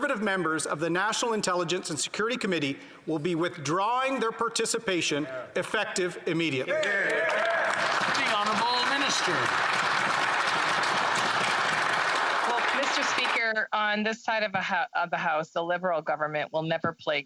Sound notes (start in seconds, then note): 10.9 applause